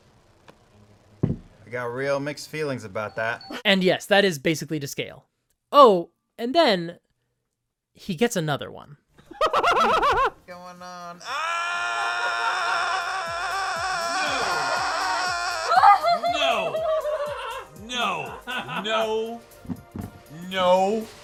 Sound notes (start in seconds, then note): 14.8 screams; 16.9 laughs maniacally